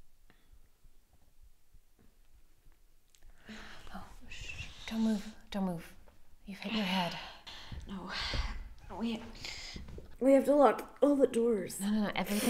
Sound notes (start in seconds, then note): 3.8 Jamie wincing